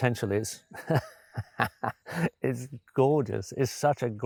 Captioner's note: chuckles